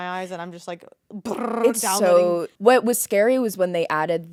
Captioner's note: lips trilling